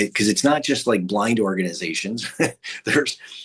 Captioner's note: chuckles